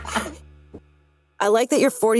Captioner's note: laugh